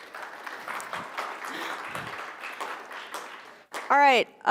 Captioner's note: audience clapping